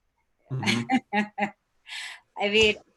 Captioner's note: laughs